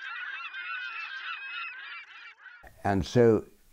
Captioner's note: birds squawking